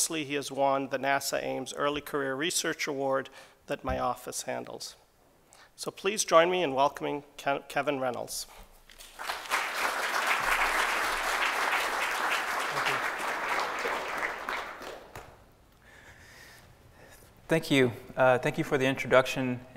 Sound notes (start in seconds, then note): 8.9 applause